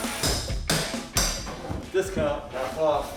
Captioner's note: hammer pounding